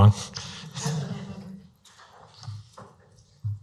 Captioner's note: laughing